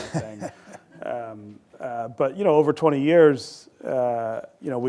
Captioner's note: laughter